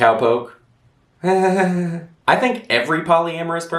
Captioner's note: half-hearted chuckle